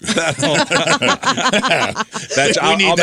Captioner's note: laughter